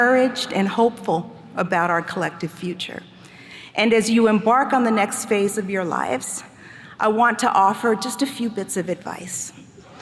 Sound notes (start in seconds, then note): none